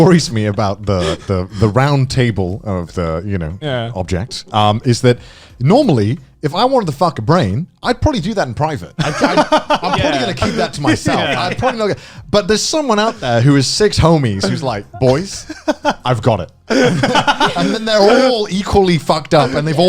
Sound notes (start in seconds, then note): 16.7 laughs